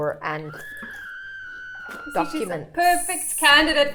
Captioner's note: screaming sound effect